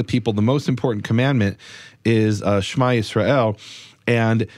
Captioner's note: speaks in foreign language